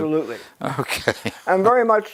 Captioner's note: laugh